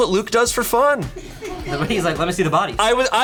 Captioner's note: colleagues laughing